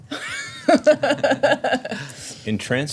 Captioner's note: laughs